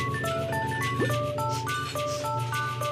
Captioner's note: sniffing